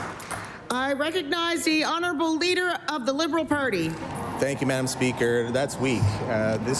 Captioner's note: applause